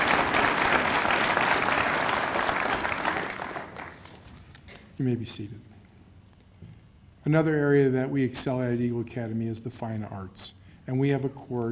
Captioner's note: cheers and applause